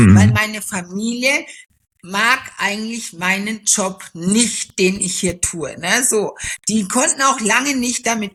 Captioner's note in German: räuspern